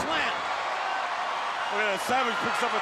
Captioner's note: crowd cheering